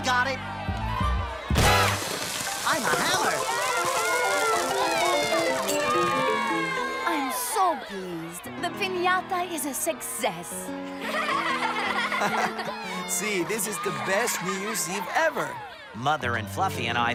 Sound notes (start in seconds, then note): 5.3 cheering; 10.9 laughing